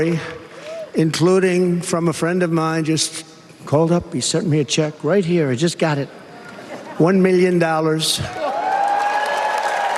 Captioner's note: applause